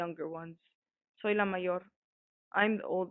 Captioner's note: voice actor speaking foreign